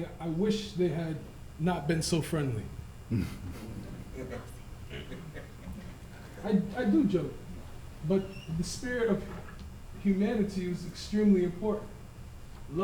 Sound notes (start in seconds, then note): 4.8 laughter